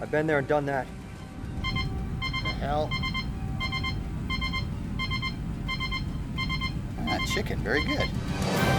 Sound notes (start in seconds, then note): 2.2 radio beeping; 8.2 aircraft whooshing; 8.5 intense, dramatic music